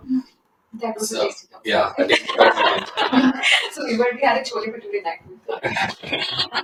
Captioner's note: laughter; laughter